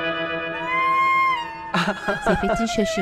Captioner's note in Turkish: Gülme sesi